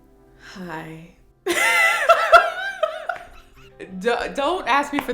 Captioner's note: laughs